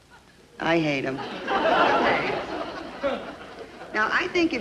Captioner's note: audience laugh